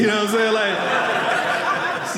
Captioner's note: audience laughing